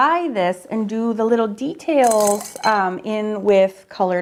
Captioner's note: brushes clanking